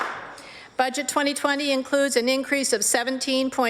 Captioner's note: applause